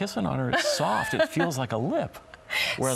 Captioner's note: laughs